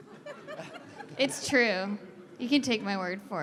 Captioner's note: laughter